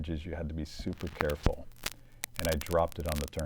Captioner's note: crackling